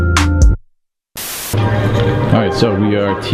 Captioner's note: light hip hop music; static buzzes